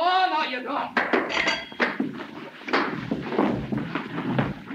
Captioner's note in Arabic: أصوات ارتطام الأجساد